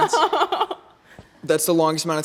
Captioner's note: laughs